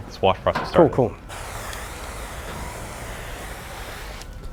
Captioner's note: loud whooshing